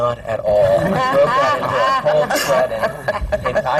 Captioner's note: laughter